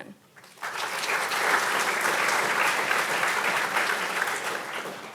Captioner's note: audience applauding